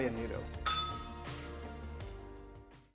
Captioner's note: bell rings